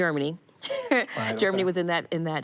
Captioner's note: she laughs